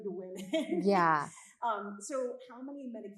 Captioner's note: chuckling